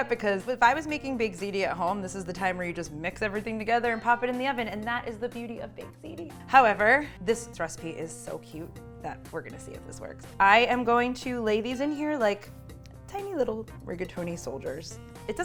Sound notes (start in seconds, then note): none